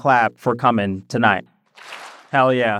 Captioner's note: audience claps